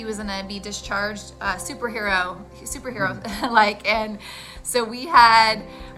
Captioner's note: chuckles